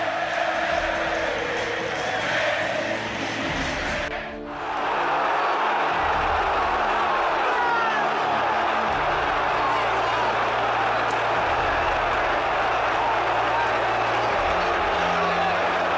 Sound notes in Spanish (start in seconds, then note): 5.3 ambiente de estadio